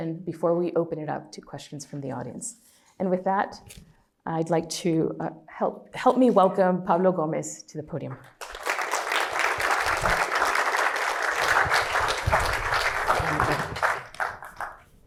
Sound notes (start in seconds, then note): 8.2 applause